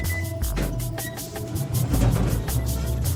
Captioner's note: door opening sounds